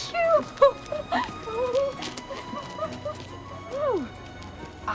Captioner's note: Melinda giggling